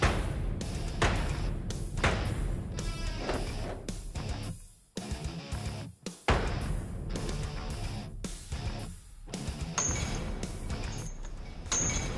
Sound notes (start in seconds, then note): 0.0 blade impacts; 9.3 clanking